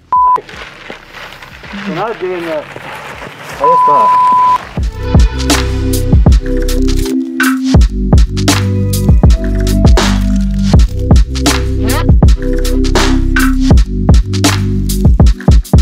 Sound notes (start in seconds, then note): 0.1 beep; 3.6 beep; 5.3 upbeat music